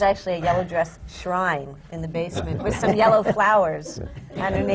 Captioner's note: laughter